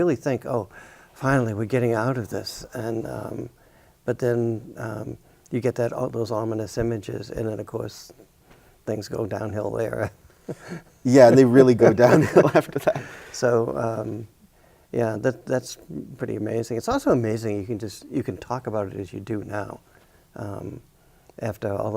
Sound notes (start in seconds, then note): 11.2 chuckles; 11.9 both chuckling